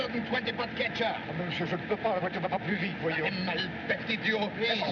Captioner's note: both Speaking French